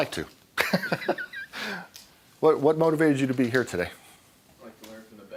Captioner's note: laughing